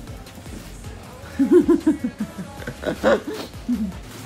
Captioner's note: laughing